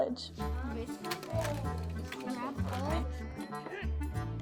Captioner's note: children talking